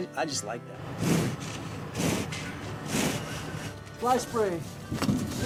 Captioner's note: bull snorting